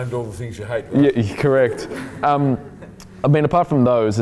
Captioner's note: laughing